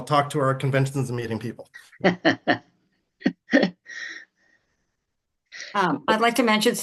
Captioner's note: laughs